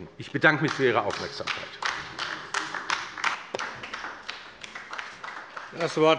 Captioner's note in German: Beifall bei der LINKEN